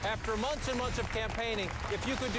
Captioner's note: applause